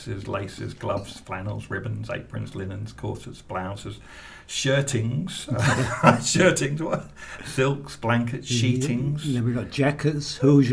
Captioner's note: laughs